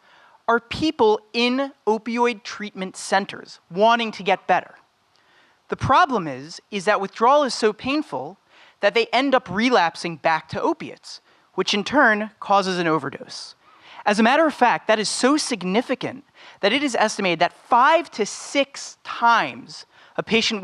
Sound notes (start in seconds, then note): none